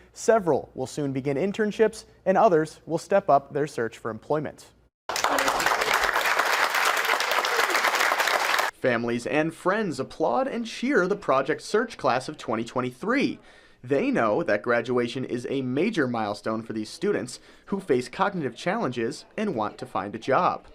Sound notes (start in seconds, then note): 5.1 nat sound: clapping, lasts 3 seconds